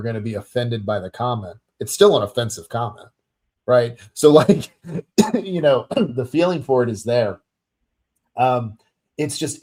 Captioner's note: chuckles then coughs